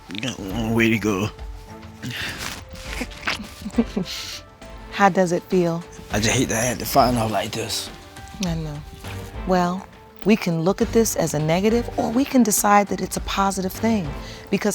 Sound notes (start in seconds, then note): 2.8 judge lake chuckling